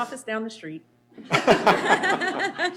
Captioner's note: laughter